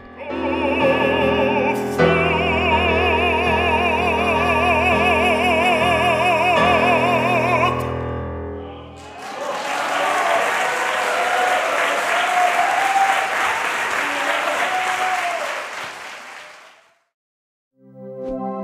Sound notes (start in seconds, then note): 8.9 audience cheering/applauding